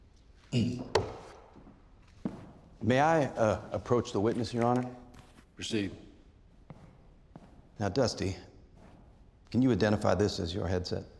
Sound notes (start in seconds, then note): 0.4 taps banister; 0.9 footsteps